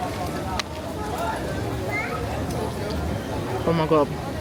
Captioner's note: tourists chattering in background